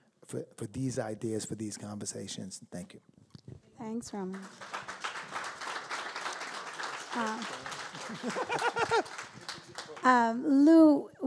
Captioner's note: applause